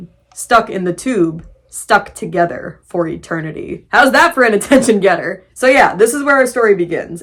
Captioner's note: laughing